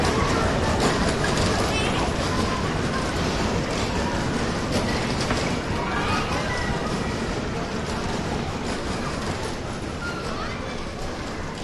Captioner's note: ferris wheel sounds